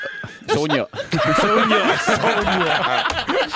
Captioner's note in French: rires